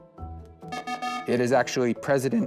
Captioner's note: times-Up Buzzer